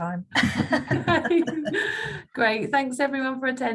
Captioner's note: both laughing